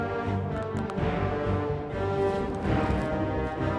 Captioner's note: joints popping; intense music